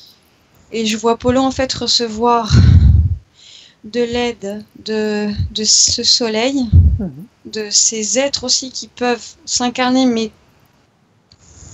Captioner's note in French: tousse